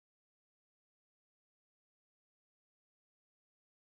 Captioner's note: none